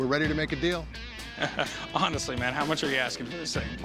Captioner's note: laughs